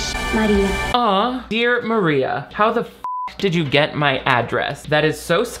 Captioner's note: beep